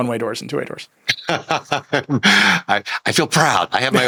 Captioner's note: laughs